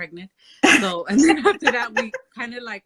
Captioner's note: laughter